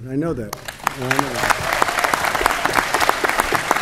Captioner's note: applause